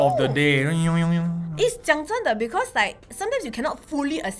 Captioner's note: seriously speaking